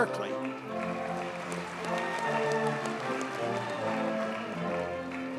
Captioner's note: audience cheers and applauds